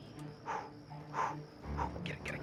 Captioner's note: breathing